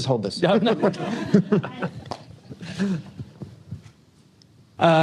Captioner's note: laughter